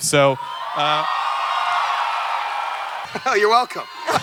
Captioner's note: audience cheering